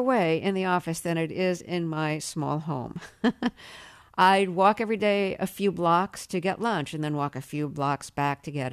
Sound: laughter

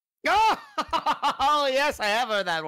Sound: laughs

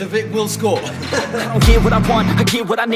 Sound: laughter

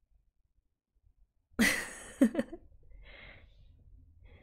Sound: laughs

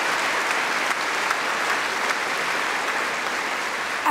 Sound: cheering & Applause

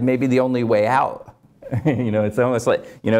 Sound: laugh

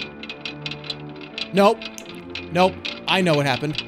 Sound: snaps

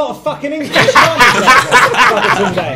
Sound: students laughs

